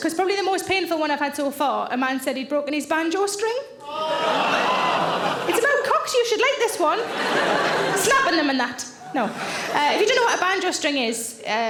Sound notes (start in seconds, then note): 3.9 audience laughing